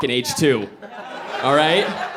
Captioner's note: audience laughing